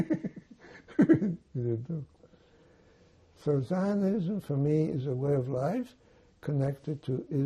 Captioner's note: laughing